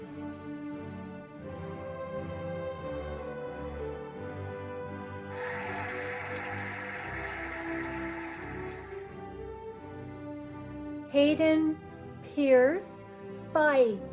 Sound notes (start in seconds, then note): 5.3 cheering and applauding